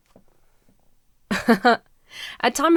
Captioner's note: forces a laugh